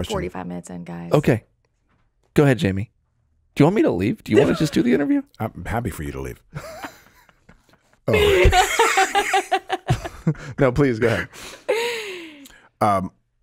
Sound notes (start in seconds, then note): 8.0 everyone laughing